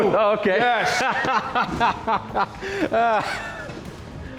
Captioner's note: laughs